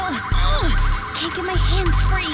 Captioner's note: grunting